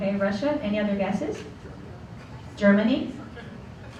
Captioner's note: murmurs from audience